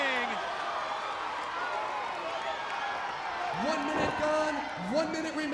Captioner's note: crowd cheering